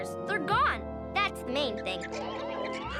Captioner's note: squirrels chirping